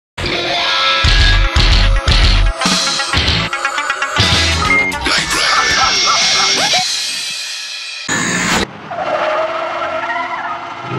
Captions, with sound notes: [Aggressive music] "KNIGHT RADER" "HA, HA, HA, HA!!!" [Loud static] [Tires screech]